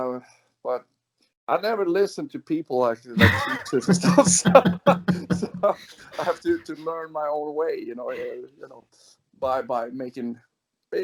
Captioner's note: laughs